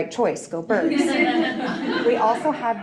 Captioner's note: audience laughing